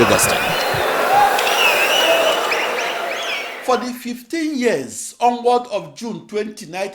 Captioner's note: wild applause and cheering for 22 seconds